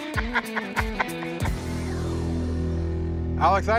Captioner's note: laughs